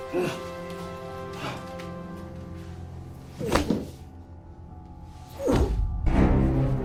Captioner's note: Kevin groaning; dramatic music